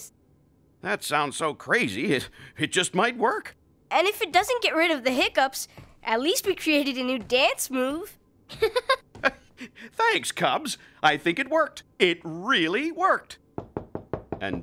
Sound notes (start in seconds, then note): 9.4 inhaling